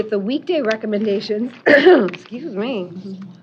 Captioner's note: coughing